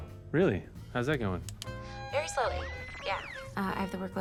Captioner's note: machine whirs